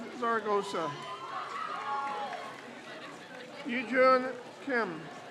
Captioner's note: crowd cheers